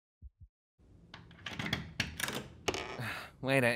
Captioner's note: door latch clicks; sighs